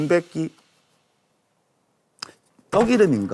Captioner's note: tsk…